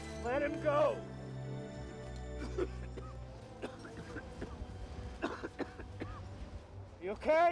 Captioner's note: coughing